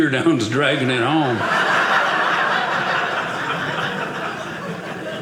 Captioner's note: audience laughing